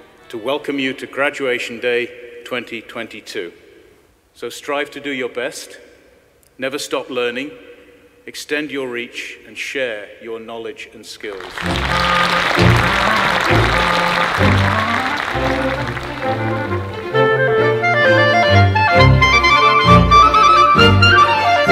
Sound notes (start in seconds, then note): 11.3 audience applauding; 14.9 bright music